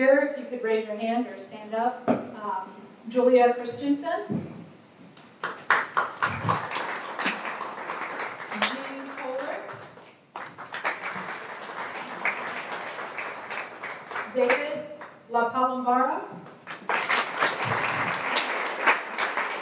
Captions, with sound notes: you could raise your hand or stand up. Julia Christensen. (applause) Jean Koeller. (applause) David LaPalombara. (applause)